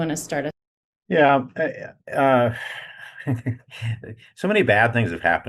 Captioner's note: laughing